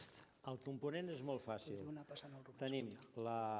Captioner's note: non-english speech